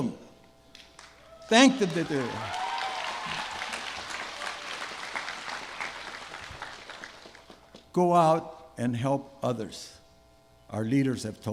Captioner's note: applause